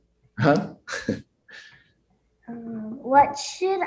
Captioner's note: chuckles